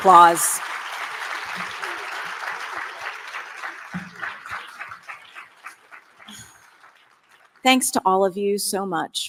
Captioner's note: applause